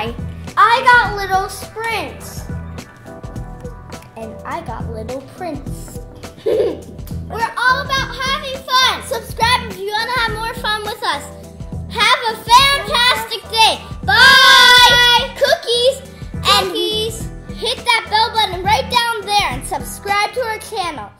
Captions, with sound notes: I got little spritz And I got little prince! [giggle] We're all about having fun. Subscribe if you want to have more fun with us. Have a Famtastic Day! Bye! Cookies! Hit that bell button down there and subscribe to our channel!